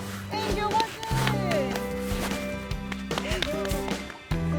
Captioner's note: yelling; upbeat music